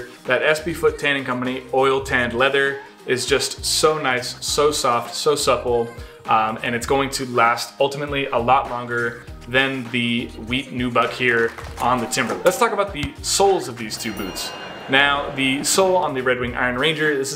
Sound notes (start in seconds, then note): 11.0 audience claps; 13.5 counter chimes